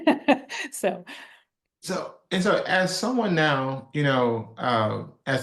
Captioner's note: laugh